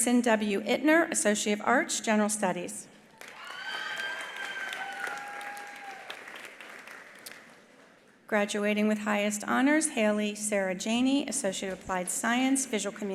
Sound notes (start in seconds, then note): 3.1 attendees applauding; 3.2 attendees cheering